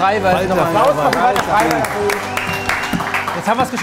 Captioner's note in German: Jubel, Applaus